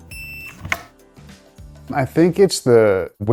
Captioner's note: machine beeping